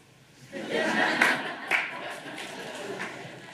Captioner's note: laughter